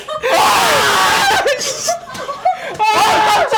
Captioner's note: terrified